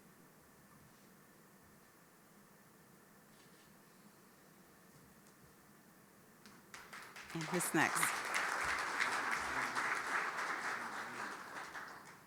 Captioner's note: applause